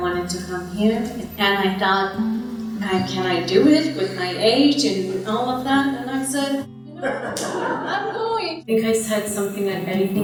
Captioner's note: laughter